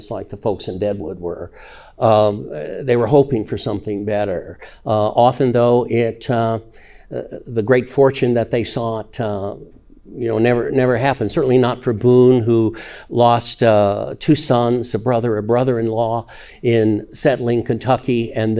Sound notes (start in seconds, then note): none